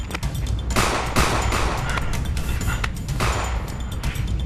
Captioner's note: gunshots pop